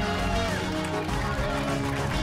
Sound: cheers and applause

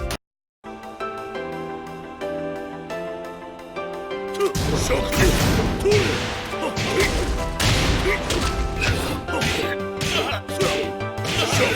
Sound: power crash

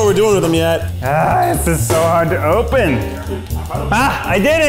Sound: groans

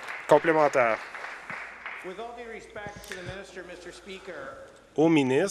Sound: some Applause

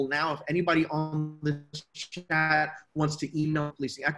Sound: mic cuts off sound

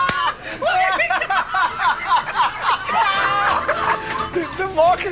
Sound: laughter and applause; laughter continues

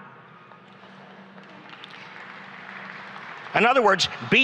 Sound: applause and cheering

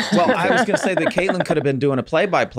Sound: Megan laughs

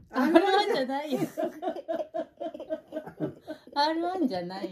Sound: laughing

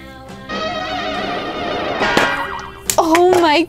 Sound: popping noise

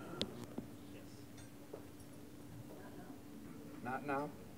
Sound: voiceover

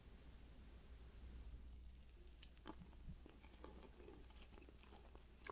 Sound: eating sound

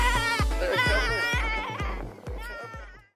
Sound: exciting music; kids screaming

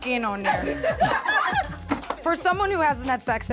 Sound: group laughs

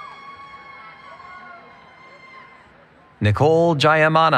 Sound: cheering

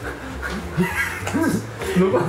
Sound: just laughing

